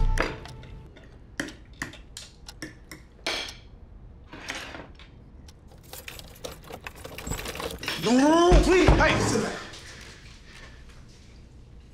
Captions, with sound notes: (cutlery tapping) (keys rattling) - No, please! - Hey, sit down!